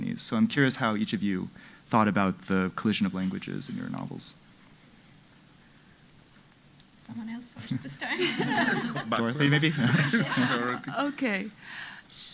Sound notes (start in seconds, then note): 7.7 audience laughing